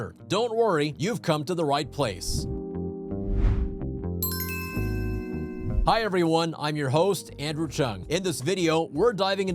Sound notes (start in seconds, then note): 2.2 light music; 3.2 air whooshing